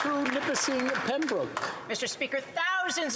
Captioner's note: some Applause